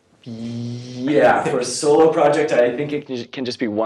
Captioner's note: laughter